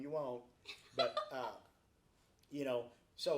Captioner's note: laughs